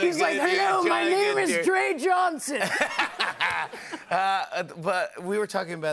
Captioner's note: laughter